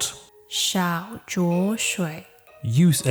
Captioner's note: still Mandarin